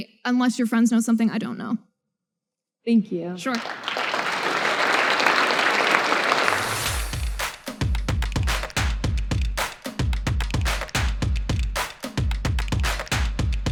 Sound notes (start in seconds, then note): 3.4 audience applause